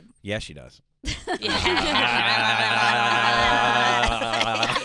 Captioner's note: laughing